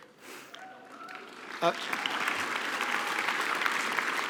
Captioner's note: applause